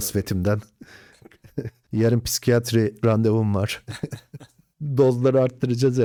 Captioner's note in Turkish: kahkaha